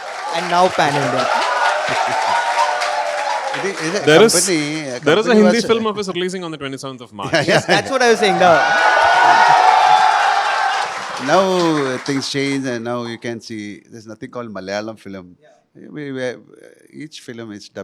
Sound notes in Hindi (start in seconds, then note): 7.6 तालियां